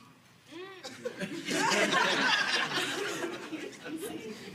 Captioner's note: audience laughing